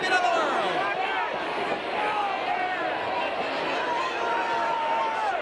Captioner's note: audience cheering